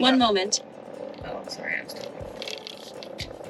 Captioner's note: speaking faintly